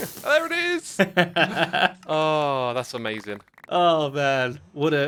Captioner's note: laughs